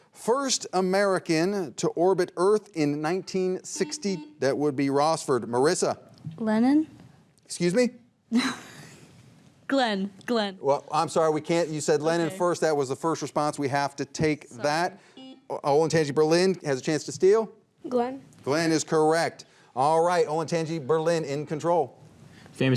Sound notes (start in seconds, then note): 3.7 buzzer beeps; 8.9 laughs; 15.6 buzzer beeps